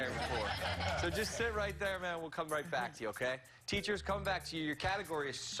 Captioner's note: laughter